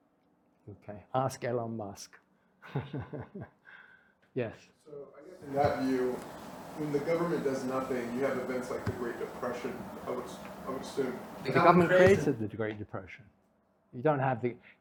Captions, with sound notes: Ask Elon Musk. (laughs) Yes. - So I guess in that view, when the government does nothing, you have events like The Great Depression. I would assume- - The government created The Great Depression.